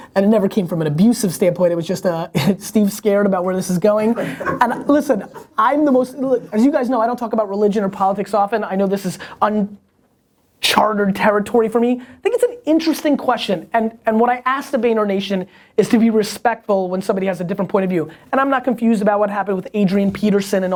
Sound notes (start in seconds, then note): 4.0 laughter